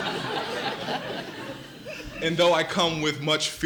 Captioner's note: laughter